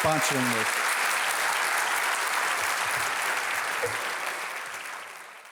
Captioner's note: audience applauding